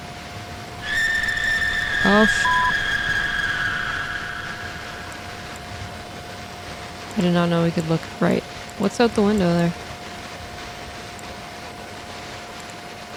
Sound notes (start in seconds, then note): 0.8 woman screams; 5.0 static continues